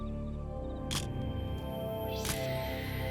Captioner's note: camera shutter click